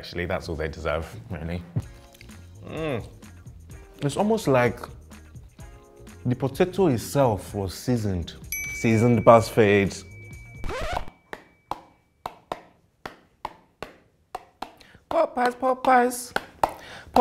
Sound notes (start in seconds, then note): 8.5 bell dings; 13.0 tapping a beat